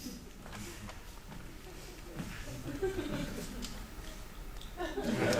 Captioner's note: audience chuckles